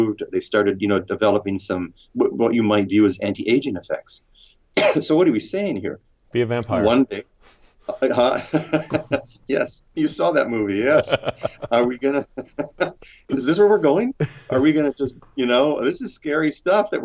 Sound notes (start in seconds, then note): 10.5 laughs